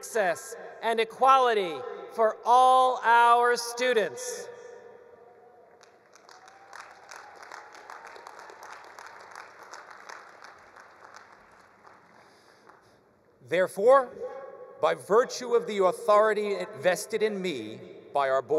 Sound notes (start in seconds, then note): 5.7 attendees applauding; 6.3 attendees cheering